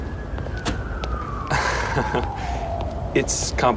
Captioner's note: chuckles